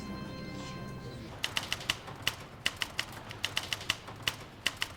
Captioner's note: typewriter clacking